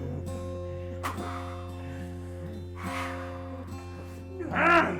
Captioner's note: clown hisses aggressively; Skull-Faced Assailant grunts